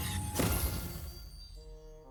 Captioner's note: pop